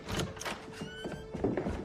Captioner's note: door opens